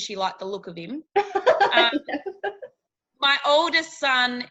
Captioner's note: laughing